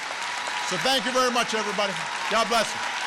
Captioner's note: applause